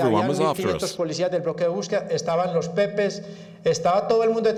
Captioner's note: Spanish spoken audio